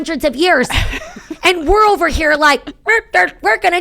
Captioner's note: laughing